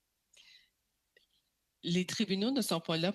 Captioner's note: speaking French